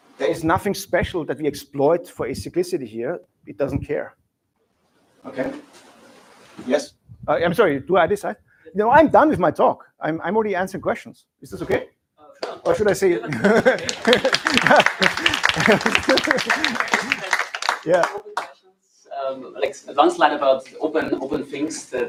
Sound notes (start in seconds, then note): 13.3 applause